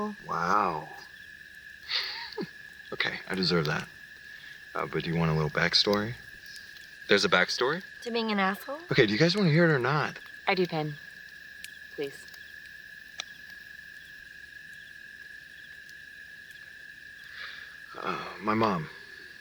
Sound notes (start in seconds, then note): 13.8 crickets Chirping; 13.8 fire Crackling